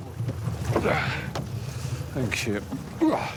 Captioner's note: grunts